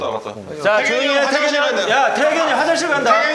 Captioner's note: loud announcement